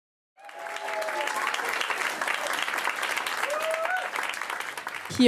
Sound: cheering and applause

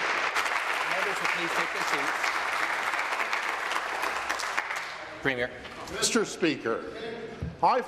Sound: applause

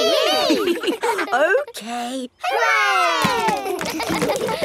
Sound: chuckles; kids laughing

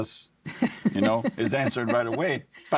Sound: laughing

